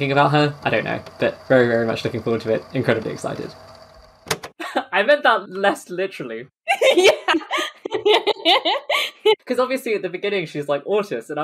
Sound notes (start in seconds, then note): 6.7 laughing